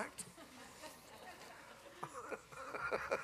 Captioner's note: laughter